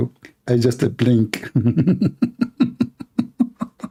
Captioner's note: Ketawa